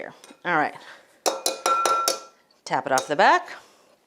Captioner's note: grater clinks